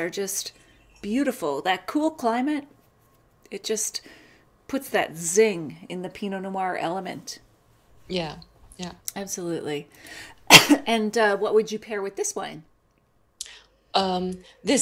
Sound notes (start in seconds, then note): 10.4 coughs